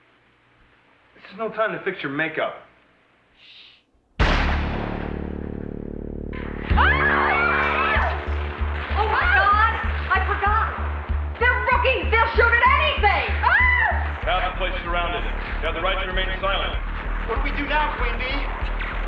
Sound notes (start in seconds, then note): 4.2 gunshot; 6.7 screaming